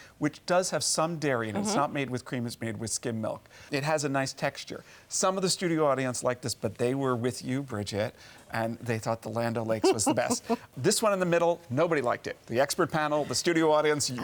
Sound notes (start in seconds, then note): 9.8 laughs